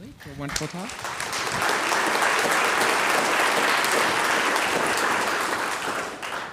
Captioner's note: audience applauding